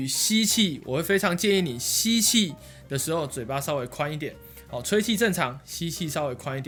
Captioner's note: inhale